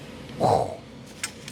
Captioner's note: exhales; engine Revs